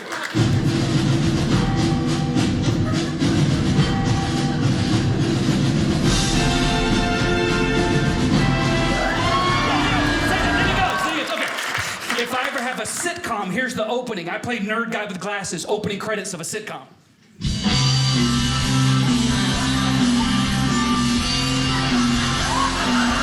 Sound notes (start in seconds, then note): 0.4 victorious music; 8.6 audience cheering; 17.2 upbeat rock music; 23.0 audience laughing